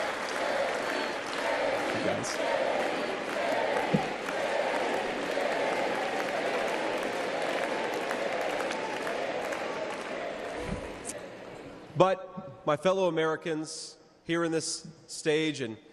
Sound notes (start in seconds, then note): 2.2 cheers and applause